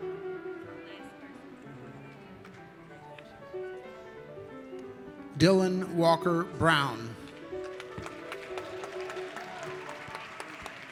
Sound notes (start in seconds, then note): 7.3 applauding